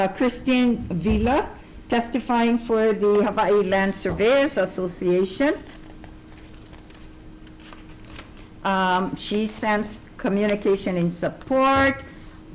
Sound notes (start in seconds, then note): 6.2 paper scratching